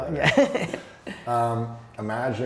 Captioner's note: laughs